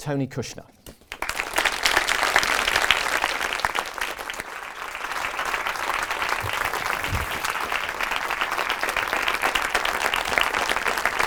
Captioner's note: applause